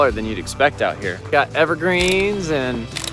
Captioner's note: camera shutter snapping